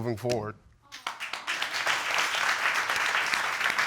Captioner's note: audience clapping